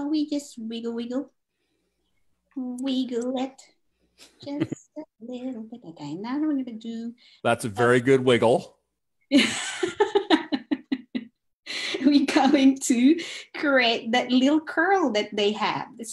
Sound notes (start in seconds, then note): 1.4 sings; 9.4 laughs